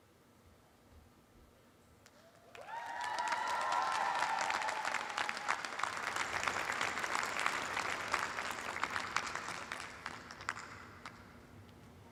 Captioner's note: cheers and applause